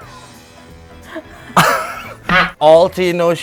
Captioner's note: gasp